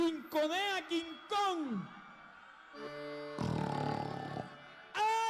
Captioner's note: growling sound